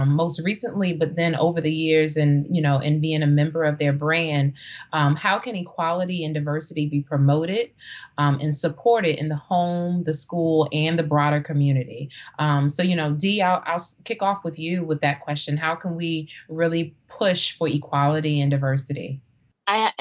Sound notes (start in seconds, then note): none